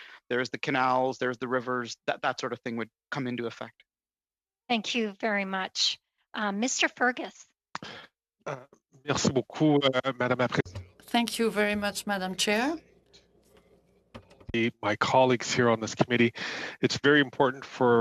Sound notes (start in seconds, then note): 13.3 speaking in French